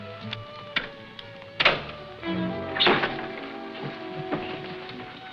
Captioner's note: door shutting